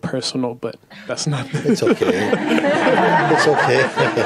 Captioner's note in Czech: smích